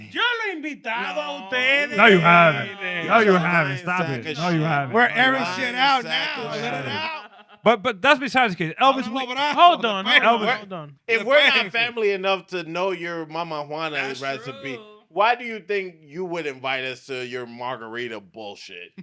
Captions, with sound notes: (Speaking In Foreign Language) No, you haven't, stop it. No, you haven't. We're airing shit out now, shut it out. But that's besides the case. Elvis, hold on, hold on. If we're not family enough to know your mama juanas recipe, why do you think you would invite us to your margarita bullshit?